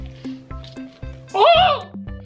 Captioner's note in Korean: 누군가의 비명